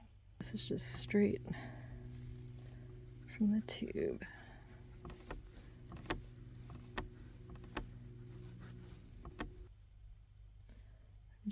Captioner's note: hard scrubbing sounds